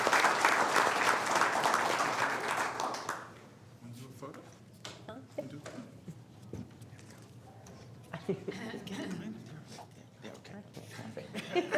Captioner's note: applause